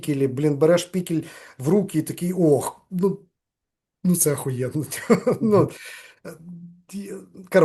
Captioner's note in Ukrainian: сміється